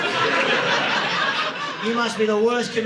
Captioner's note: audience laughing